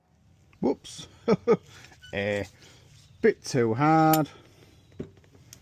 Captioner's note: laugh